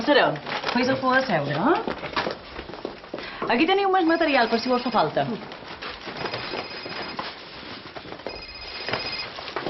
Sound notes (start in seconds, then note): 6.1 Lurdes's mobile phone rings